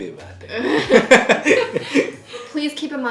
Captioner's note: both laughing